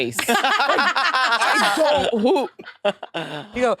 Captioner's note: participants laughing